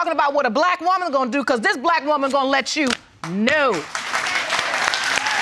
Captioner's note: audience applauds